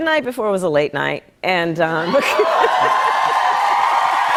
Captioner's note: cheers and applause